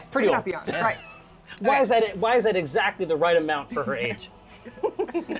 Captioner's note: laughs